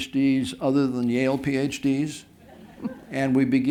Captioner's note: laughter